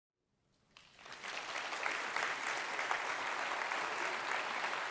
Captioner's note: audience clapping